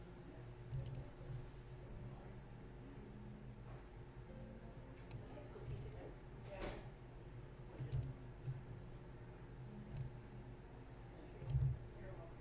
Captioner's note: clicking, typing